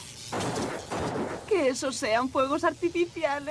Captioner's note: loud, explosive noise